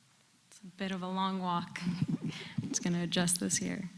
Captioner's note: laugh